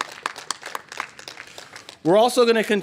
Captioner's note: applause